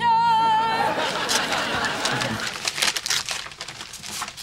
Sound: audience laughing

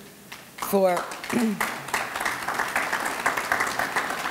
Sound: audience clapping

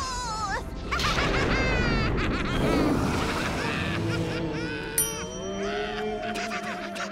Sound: cackling

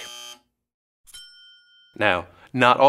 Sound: buzzer; dings

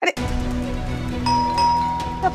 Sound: doorbell ringing

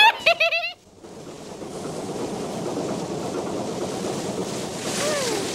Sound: laughs; barge rumbling

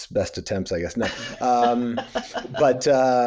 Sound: laughs

